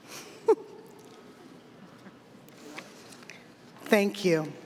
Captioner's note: laughing